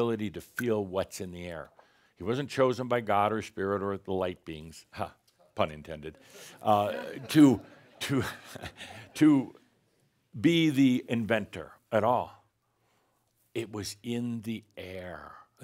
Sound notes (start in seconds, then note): 6.7 some chuckles